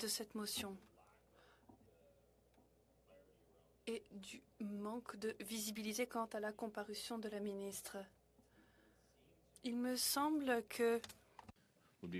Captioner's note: speaking French